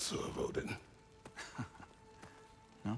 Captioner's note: laugh